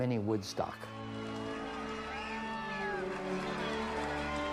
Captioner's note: people applauding